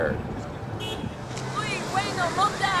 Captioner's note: car honk